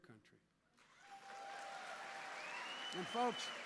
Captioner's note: applause